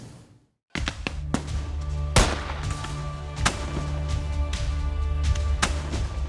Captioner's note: solemn music; gunfire banging